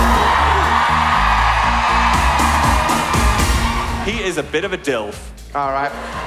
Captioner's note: audience cheering